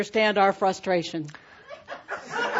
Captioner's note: laughter